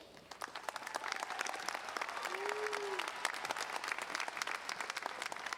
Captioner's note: audience cheering and applauding